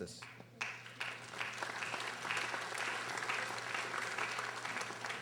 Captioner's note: audience applauding